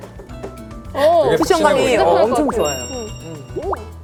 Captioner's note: boing